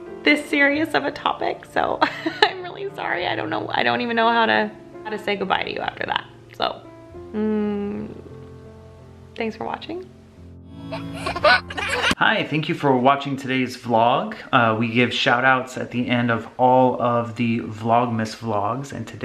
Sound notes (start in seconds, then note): 10.9 giggling